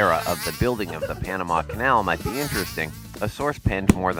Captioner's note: fly buzzing past people